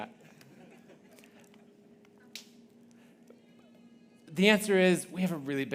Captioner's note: audience laughing